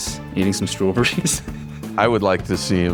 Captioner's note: chuckles